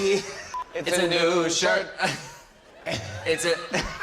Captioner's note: laughter; laughing; laughter